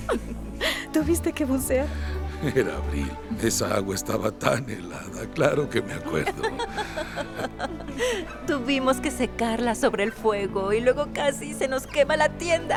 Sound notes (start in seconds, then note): 6.0 Esperanza ríe; 7.5 Faith ríe